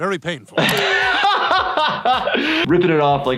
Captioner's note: laughs